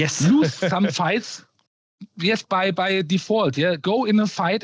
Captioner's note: snorts